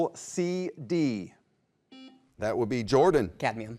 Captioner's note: buzzer beeps